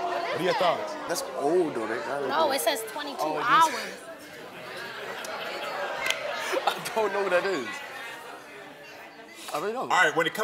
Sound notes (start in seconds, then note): 4.8 laughs; 5.8 audience chatters